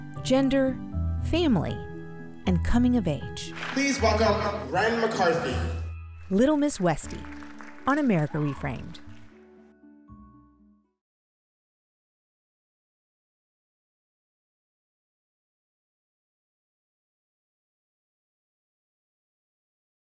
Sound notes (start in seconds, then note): 3.5 audience applauding; 9.1 light music